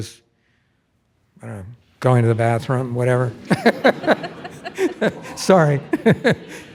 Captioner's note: laughs